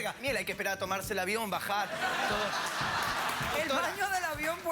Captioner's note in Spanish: risas